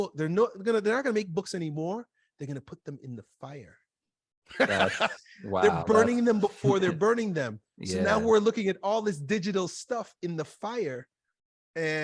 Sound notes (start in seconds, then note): 4.5 chuckles; 4.6 laughs